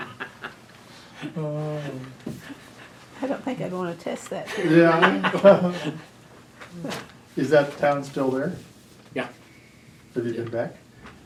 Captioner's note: laughter